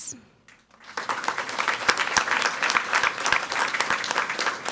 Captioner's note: people clapping